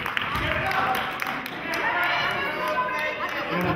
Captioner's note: applauding